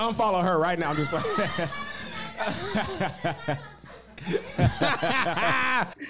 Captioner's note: laughs; audience member yelling indistinctly; people on stage laughing